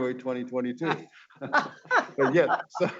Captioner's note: laughing